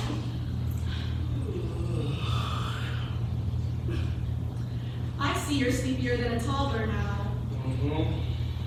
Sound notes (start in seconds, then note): 4.5 giggles